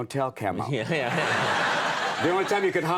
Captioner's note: audience laughs